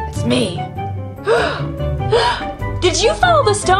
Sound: gasping

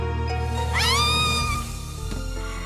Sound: screams

